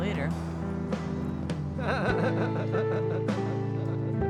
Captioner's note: laughs